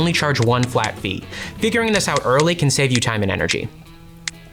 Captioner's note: phone tapping noises; tapping continues